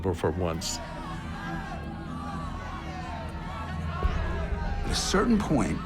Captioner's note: yelling